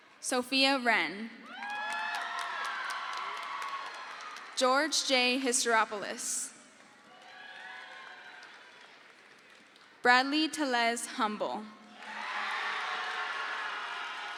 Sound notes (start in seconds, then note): 1.4 crowd cheers; 7.4 crowd cheers; 11.9 crowd cheers